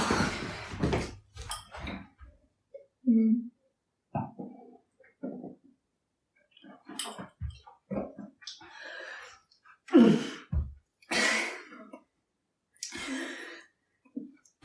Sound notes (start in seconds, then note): 0.1 woman sighs; 9.9 woman sighing